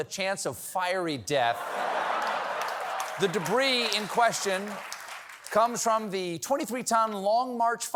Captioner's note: laughter